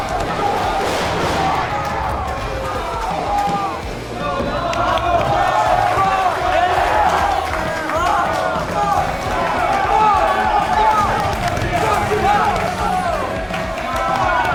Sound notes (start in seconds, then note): 5.4 Referee to Steve Pain yells one count, one; 8.9 crowd is yelling with excitement